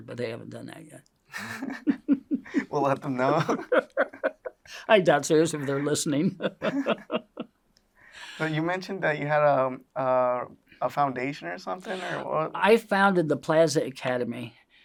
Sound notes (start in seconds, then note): 1.3 laughs